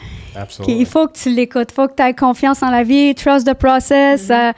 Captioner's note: in french; in french